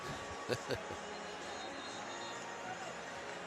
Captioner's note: chuckles